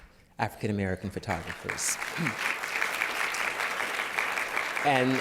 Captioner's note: applause